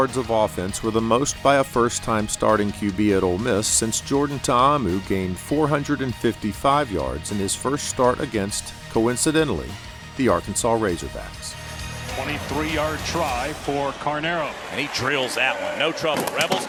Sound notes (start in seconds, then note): 14.7 crowd cheering